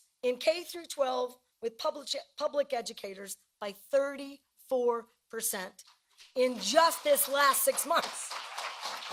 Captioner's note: cheering and applause